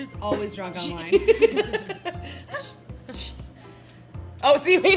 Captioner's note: both laughing